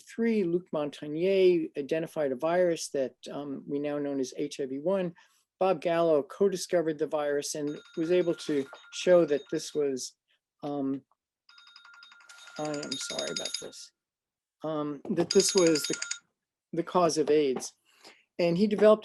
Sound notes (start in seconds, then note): 7.7 phone ringing